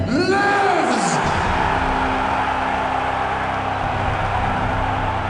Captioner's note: the crowd goes absolutely bananas